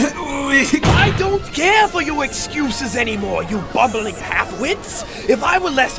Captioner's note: slam